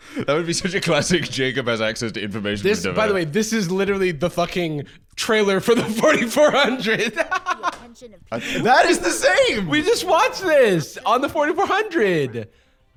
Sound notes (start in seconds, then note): 5.7 laughs